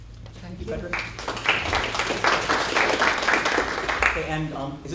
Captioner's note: applause